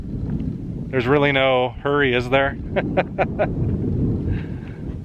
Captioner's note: laughter